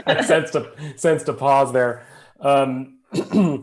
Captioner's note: laughs